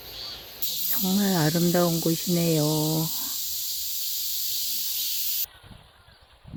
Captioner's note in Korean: 매미 소리